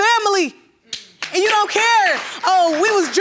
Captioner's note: audience applauding